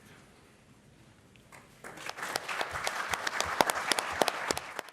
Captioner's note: applause